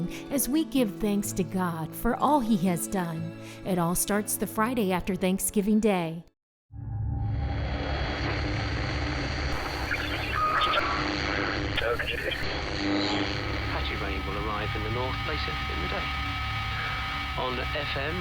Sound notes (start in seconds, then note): 6.9 thunder; 10.1 radio static